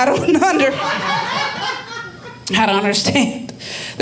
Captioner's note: audience laughing